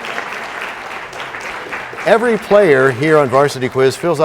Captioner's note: applause